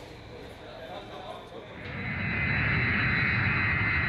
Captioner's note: airplane takeoff